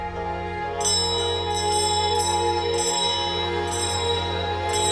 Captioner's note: bell ringing